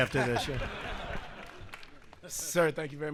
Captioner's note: laughter